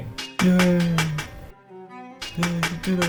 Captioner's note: metallic clapping